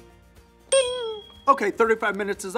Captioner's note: bell rings